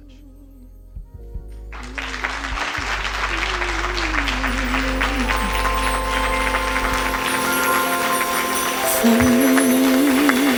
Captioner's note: applause